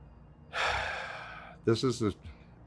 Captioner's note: sighs